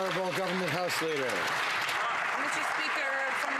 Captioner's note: some Applause